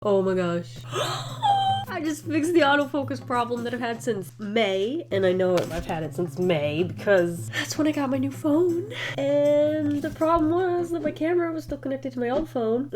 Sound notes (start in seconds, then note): 0.8 gasps